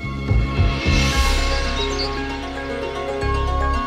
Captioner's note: birds tweeting